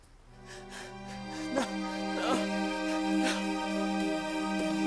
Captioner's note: groaning